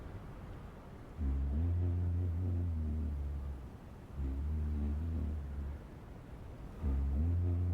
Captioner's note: humming